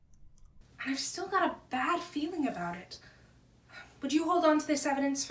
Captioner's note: on phone